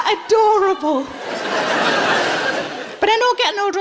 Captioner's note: laughing